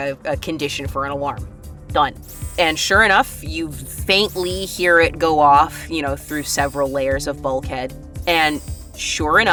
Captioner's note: alarm sounds